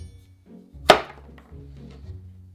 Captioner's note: knife chop